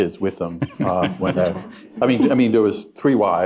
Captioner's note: chuckling